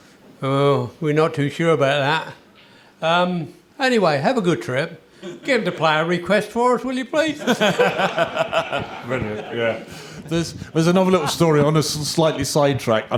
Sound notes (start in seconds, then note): 7.3 laughter